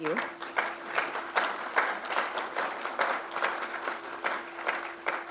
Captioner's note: crowd applauds